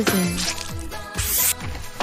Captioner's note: water Slash Sound; hand Wipe Noise